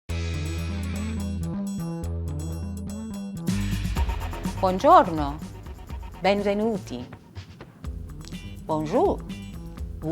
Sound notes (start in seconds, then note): 0.5 upbeat music; 4.5 foreign language